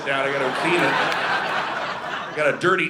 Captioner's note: audience laughing